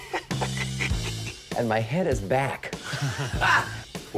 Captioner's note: laughs; laughs